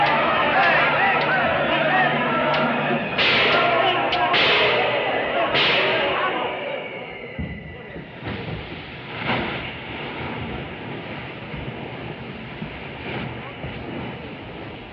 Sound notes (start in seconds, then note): 4.1 cymbal clanging; 7.1 shouting dies down